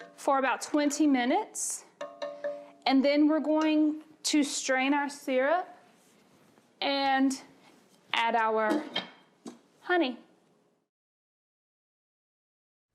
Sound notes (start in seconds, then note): 1.9 taps utensil